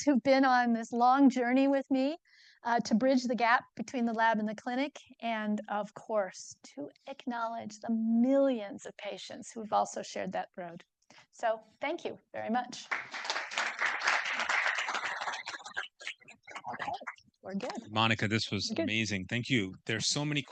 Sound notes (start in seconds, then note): 12.8 audience applauding